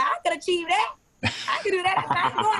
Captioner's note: laughs